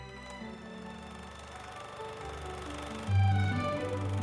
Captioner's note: film projector whirs